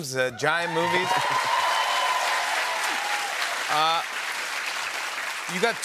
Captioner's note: cheers and applause